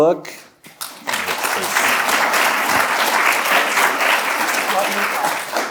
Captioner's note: audience applauding